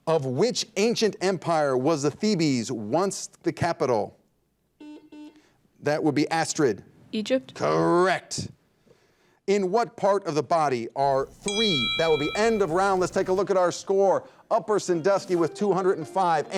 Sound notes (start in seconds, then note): 4.9 buzzer dings; 11.1 bell rings